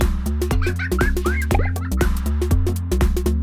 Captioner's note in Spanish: risas